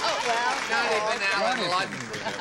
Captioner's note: applause